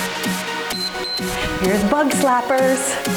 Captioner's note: timer beeps